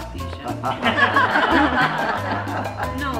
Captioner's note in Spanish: risas